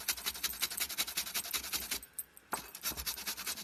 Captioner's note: grater noise